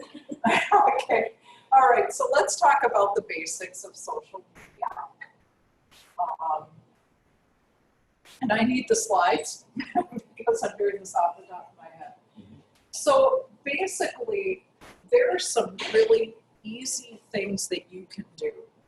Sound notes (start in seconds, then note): 0.0 laughter; 9.5 laugh